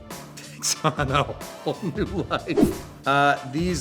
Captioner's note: laughs